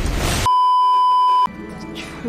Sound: beeeeeep

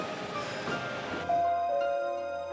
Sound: doorbell ringing

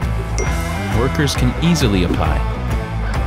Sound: bell dings

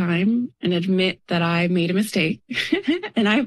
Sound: laughs

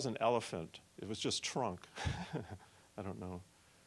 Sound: laughing

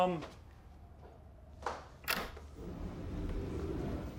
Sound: door unlocks

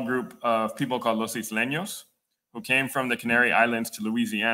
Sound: speaking Spanish

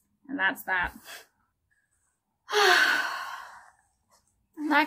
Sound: huge sigh

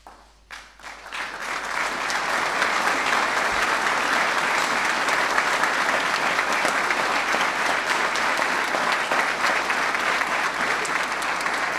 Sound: applause

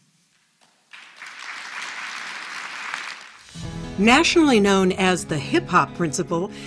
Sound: applause

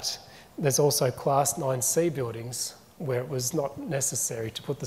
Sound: none

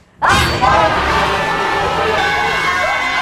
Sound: screams

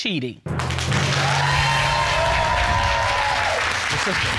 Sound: audience cheering

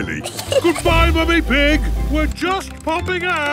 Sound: giggles

